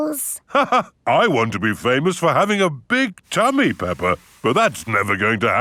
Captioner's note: laughs